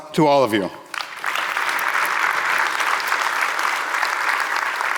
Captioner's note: audience applauding